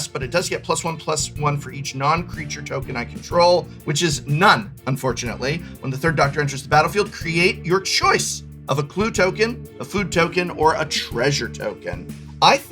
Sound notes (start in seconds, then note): none